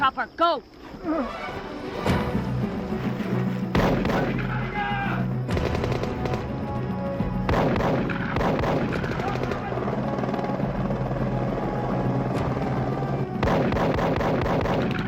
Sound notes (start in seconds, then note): 2.5 suspenseful music; 4.6 guns firing; 10.9 rotors whirring